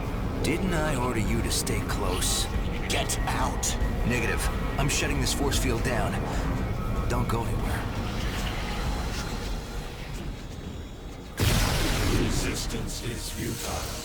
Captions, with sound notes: Didn't I order you to stay close? Get out. Negative, I'm shutting this force field down. Don't go anywhere. (tense music) (explosion) Resistance is futile.